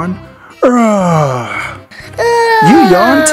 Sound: Lightening McQueen yawns

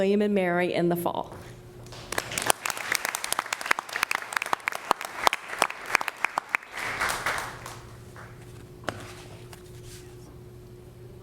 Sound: applause

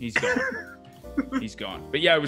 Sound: laugh

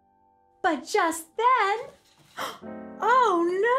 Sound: gasps

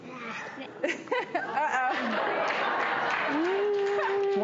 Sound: laughs; crowd applauds

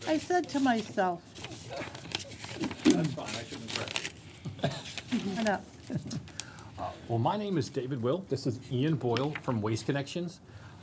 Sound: laughter

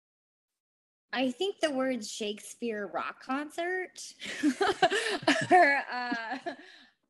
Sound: laughs

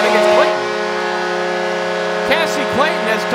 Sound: horn

